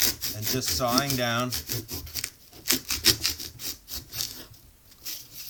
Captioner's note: sound of knife cutting through foam